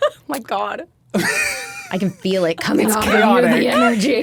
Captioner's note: laughing; Dan laughing